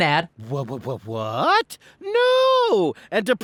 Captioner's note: sarcastically